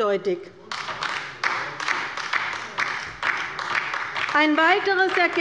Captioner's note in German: Beifall bei der LINKEN